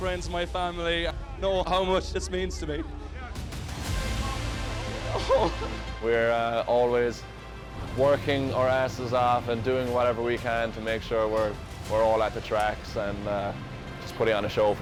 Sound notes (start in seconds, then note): 3.5 dramatic music; 5.1 crying